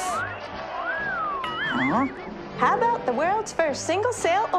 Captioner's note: man in audience wolf-whistles